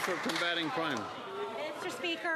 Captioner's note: some Applause